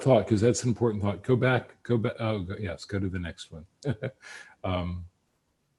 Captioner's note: laughs